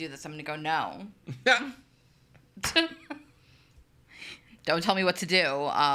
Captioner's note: laughs